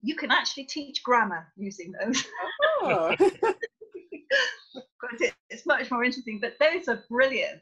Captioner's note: laughter